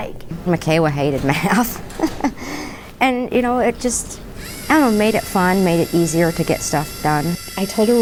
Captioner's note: laughing